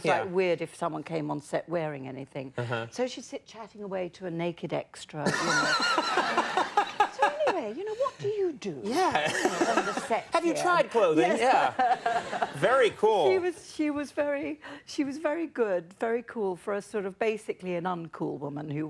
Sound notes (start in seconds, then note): 5.9 Conan laughs